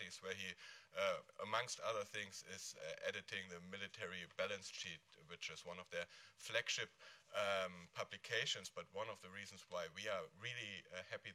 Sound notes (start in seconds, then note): none